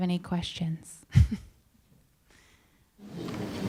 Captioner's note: chuckles